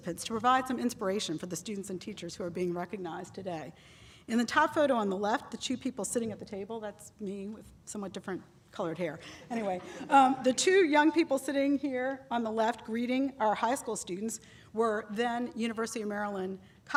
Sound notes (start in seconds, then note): 9.6 laughter